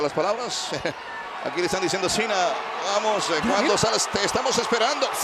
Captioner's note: laugh